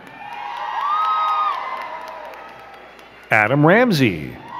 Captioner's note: crowd cheering and clapping